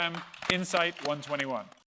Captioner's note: applause